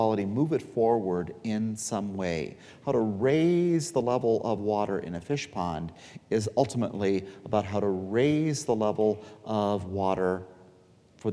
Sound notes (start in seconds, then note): none